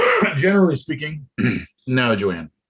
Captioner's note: coughs